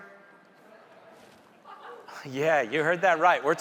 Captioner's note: audience members chuckling